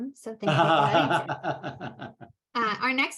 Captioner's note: laughs